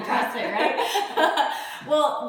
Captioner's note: laughs